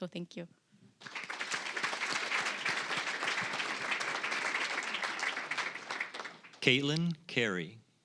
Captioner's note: applause